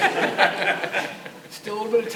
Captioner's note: audience laughs